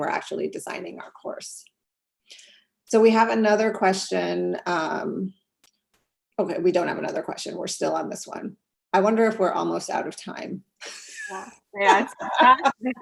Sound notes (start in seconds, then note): 11.0 laugh